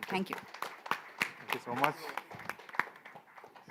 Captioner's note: applause